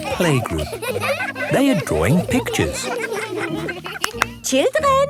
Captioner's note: laughter